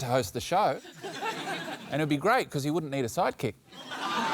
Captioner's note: laughter